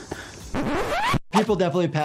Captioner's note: record scratching